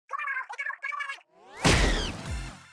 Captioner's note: smack!